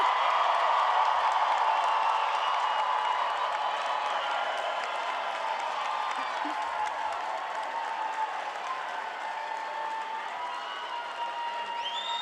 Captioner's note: cheering and applause